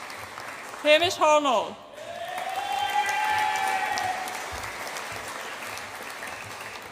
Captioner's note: audience applauds and cheers